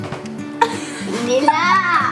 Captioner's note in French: rires